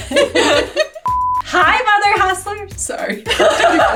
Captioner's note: both laughing; color bars beeping; both laughing